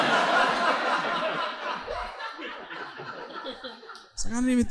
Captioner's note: audience laughing